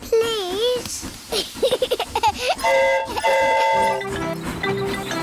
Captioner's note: giggles; train horn toots